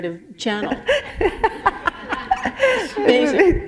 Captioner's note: laughter